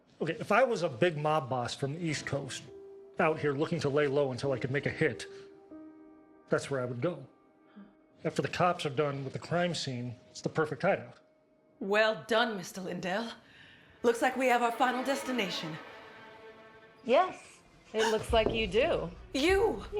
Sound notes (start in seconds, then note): 14.0 dramatic music; 18.0 Eleanor gasps